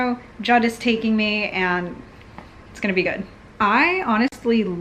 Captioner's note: none